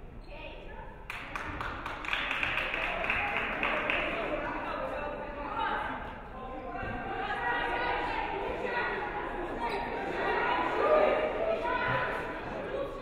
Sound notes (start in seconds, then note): 1.0 audience clapping